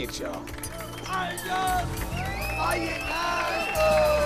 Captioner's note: group cheers